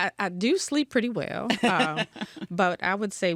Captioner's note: laughs